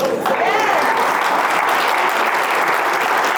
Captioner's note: applause